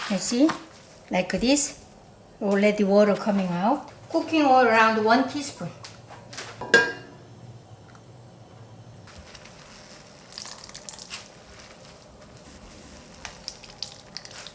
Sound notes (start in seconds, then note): 9.2 squeezing water